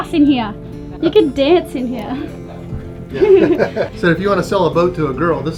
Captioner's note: laughing